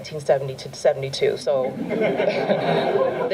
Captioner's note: laughter